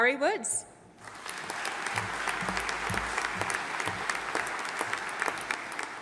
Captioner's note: audience applauding